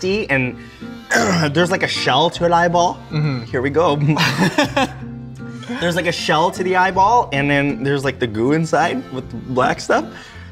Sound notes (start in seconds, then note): 3.9 laughing